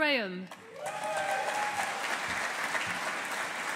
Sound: audience applauding

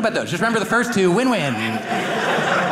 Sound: audience laughing

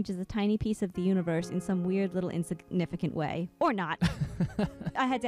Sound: laughing

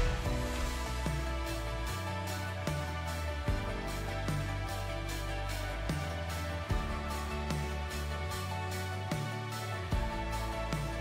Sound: clap-along

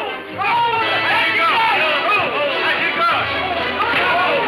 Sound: men shouting

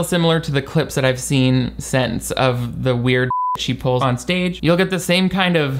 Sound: beep

